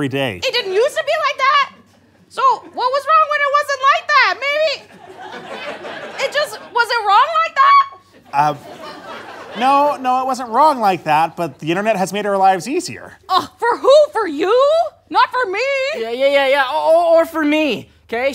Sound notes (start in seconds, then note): 4.8 audience laughter; 8.1 audience laughter